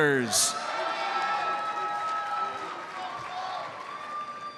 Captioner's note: audience cheers and applauds